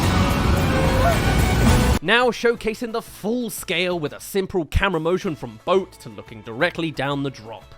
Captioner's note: waterfall